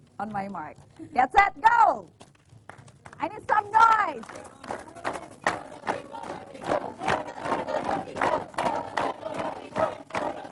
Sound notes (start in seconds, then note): 3.8 cheering